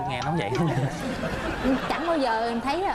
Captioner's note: laughs